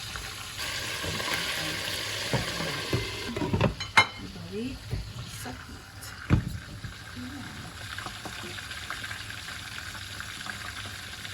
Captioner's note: frying